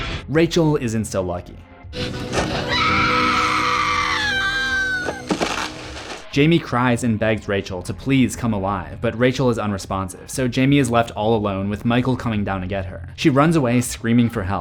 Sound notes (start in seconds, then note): 2.4 Rachel screaming; 5.1 thud